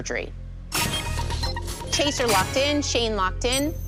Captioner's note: chime, chime